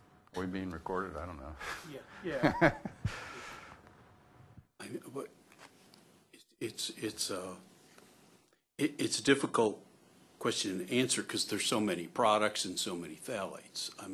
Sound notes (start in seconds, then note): 2.3 laughter